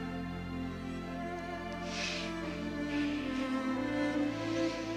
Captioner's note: both exhale sharply